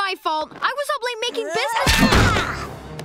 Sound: shouting

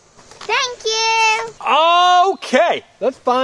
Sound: voiceover

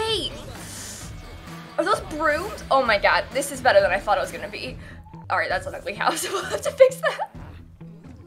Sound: laughs

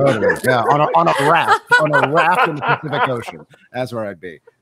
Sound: members laugh

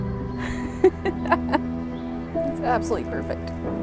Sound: laughing

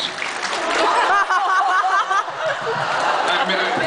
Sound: laughs; thumps on mic

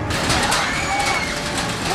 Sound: screaming

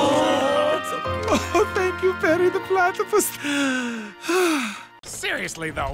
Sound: crowd: mixed "Oooh!/Aww!"; tearfully; sighs

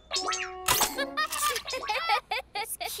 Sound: laughter

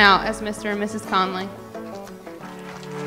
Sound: applause

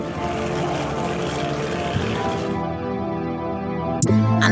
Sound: helicopter blades whir

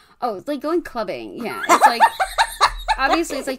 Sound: laughs

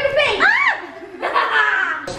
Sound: laughing; screaming

